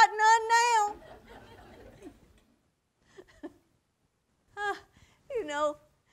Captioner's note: audience laughter; she chuckles